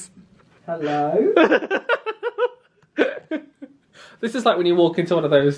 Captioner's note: laughs